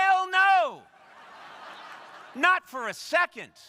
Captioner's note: crowd laughing